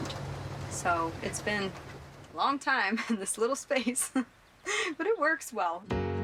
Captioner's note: chuckles